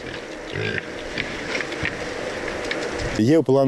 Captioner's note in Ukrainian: Рохкає